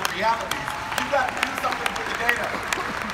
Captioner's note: audience applauding